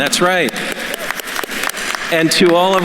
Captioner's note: attendees applauding